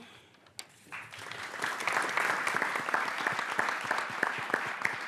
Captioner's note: audience clapping